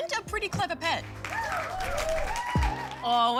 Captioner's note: cheering, applause